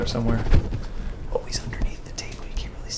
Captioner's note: whispers